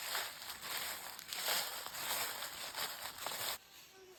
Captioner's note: walking through crunchy Fall leaves